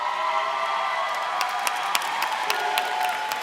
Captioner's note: applause